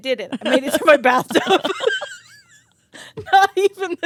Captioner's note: both laughing